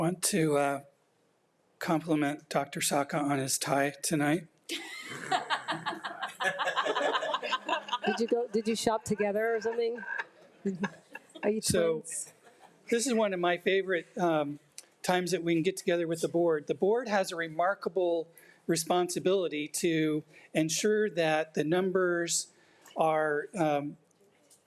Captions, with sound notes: - I want to compliment Dr. Sciacca on his tie tonight. (laughing) - Did you shop together or something? - So this is one of my favorite times that we can get together with the board. The board has a remarkable responsibility to ensure that the numbers are calculated